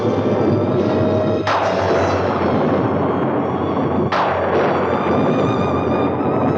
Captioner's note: ominous music; thunder crashing continues